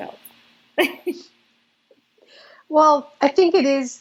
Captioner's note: laughs